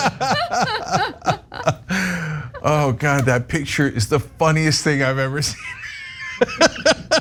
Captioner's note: laugh; laugh